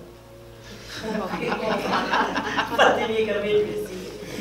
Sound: laughs

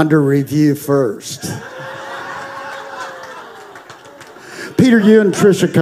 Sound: congregation laughing

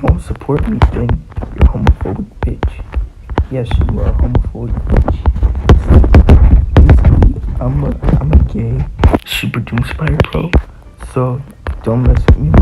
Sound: random static

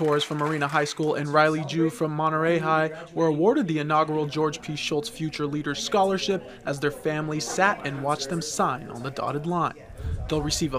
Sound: nat pop clapping

